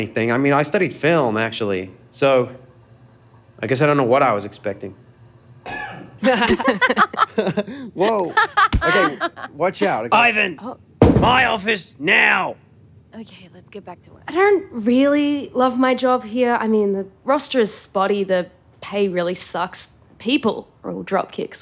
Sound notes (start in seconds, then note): 5.6 cough in background; 8.0 laughs